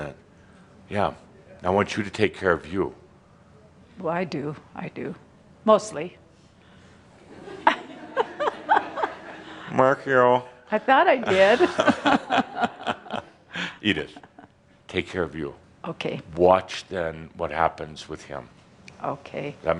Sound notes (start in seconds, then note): 13.8 they chuckle